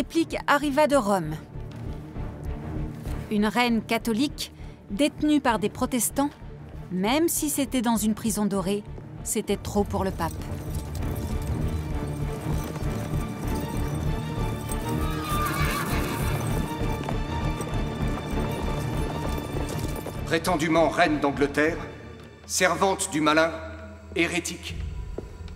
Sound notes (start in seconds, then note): 11.7 dramatic music; 14.8 horse neighs; 17.1 dramatic music